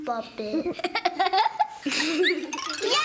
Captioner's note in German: Kichern